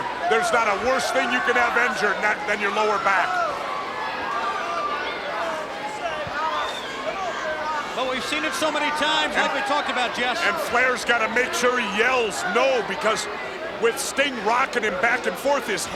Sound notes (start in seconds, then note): 4.0 crowd cheering; 6.4 Ric exclaiming